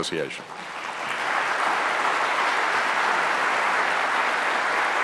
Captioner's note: applause